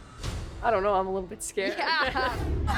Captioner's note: all laugh